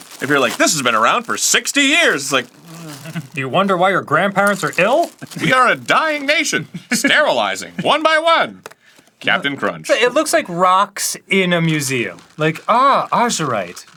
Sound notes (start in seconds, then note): 2.7 unsure sound